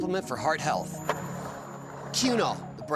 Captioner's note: skateboard wheels roaring